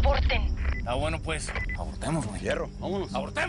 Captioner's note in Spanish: Bip